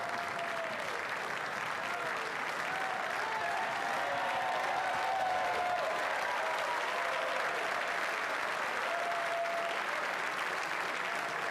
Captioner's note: cheering and Applause